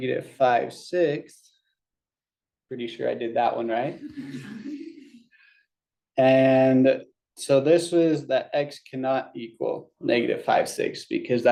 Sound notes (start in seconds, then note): 4.0 laughter